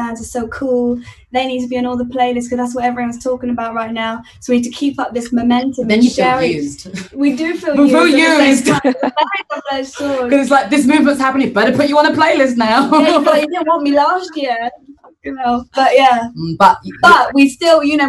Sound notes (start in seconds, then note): 8.0 laughs; 13.2 laughs